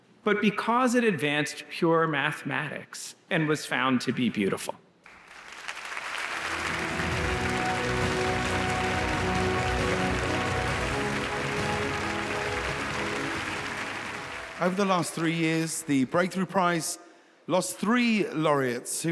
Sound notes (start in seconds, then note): 6.0 uplifting music; 6.2 audience applauds